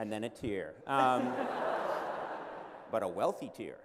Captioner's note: laughter